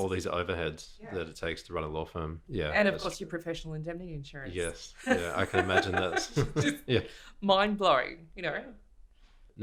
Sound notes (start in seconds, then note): 5.1 laughs